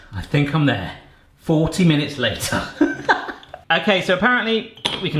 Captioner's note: laughs